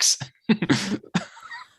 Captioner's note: giggles